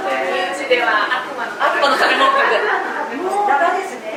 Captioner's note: laughs